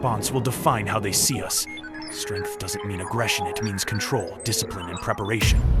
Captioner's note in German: piepsender Computer